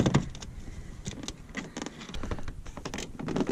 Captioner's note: plastic creaks